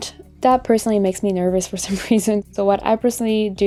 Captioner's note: laughs